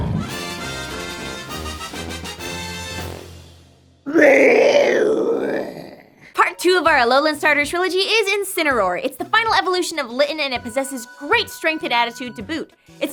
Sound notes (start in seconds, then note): 4.0 Pokémon Cry